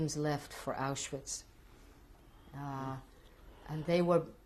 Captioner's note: pauses for 3 seconds